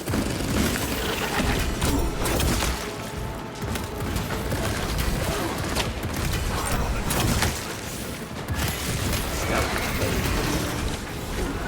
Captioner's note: gunfire